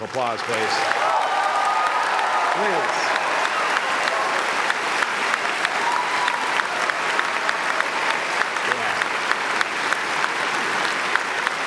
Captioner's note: applause